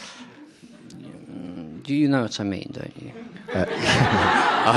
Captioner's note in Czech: Smích